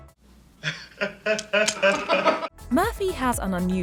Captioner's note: laughing